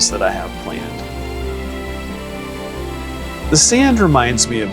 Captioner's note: sand pours